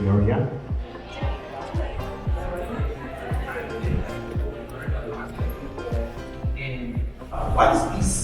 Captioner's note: crowd murmuring